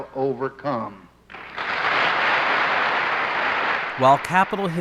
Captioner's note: applause